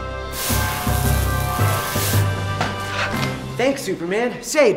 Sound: rope searing

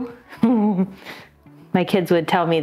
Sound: chuckles

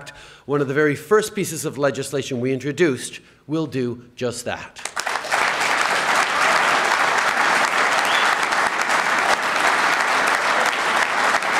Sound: applause

